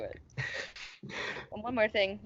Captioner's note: laughs